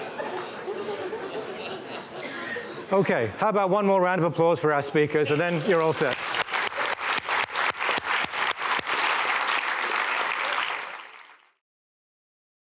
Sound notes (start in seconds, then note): 0.0 laughter; 6.6 applause